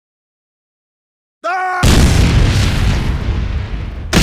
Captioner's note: explosion